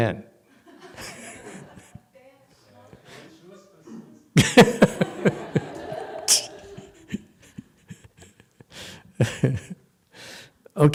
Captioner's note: laughs